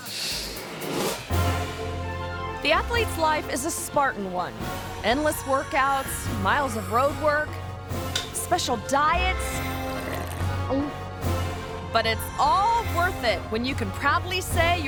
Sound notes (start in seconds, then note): 0.1 uplifting music; 8.1 egg cracks